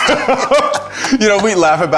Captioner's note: both laughing